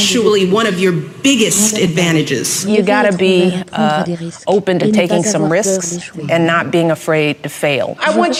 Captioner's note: none